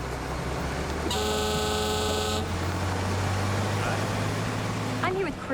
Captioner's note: horn blares